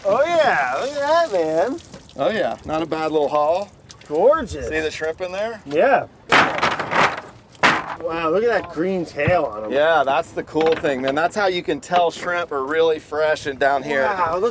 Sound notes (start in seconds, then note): 6.3 net weights rattle